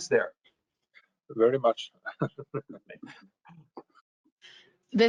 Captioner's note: chuckles